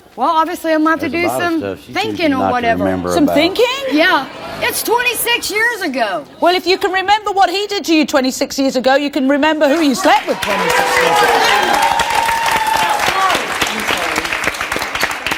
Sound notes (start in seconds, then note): 9.7 audience applauds